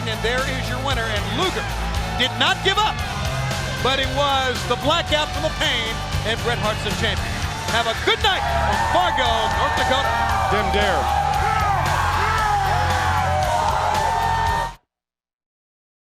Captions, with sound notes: CELEBRATING AND THERE IS YOUR WINNER. AND LUGER DID NOT GIVE UP BUT IT WAS THE BLACKOUT FROM THE PAIN AND BRET HART'S OUR CHAMPION. HAVE A GOOD NIGHT ON FARGO, NORTH DAKOTA. >> [CROWD CHEERING]